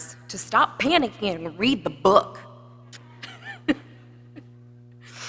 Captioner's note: laughs